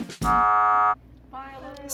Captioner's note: buzzer sounding